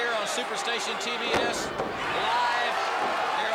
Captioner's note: crowd cheering